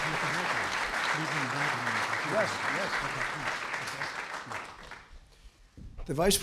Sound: applause; off-mic

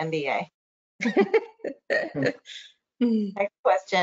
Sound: laughs

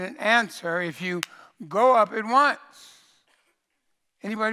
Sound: claps

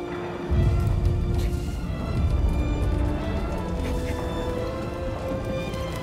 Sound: muffled explosions

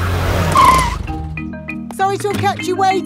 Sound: brakes squeal

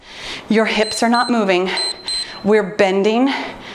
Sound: timer beeps

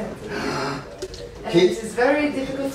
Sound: gasps; deep sigh

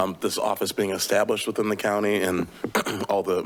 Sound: clears throat

